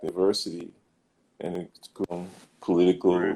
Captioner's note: glitch